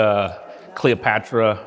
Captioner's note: mumbling